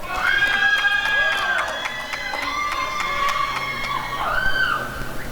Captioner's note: applause and cheering